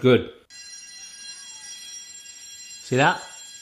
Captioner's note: bell ringing